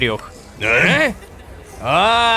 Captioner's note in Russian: Удивлённые голоса